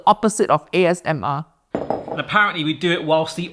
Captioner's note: bowl clatters